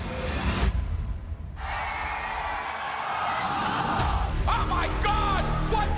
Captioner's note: crowd cheering